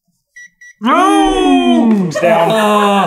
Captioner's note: gentle beeping